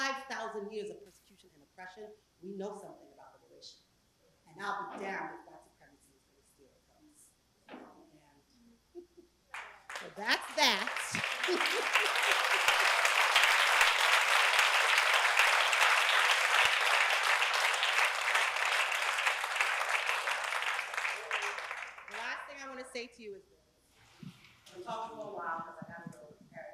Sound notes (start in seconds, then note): 9.9 laugh; 11.1 applause